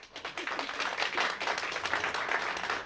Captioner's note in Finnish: Aplodeja